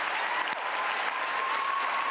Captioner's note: cheers and applause